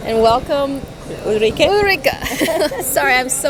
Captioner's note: laughs; chuckles